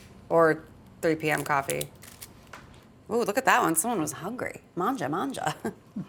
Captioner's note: none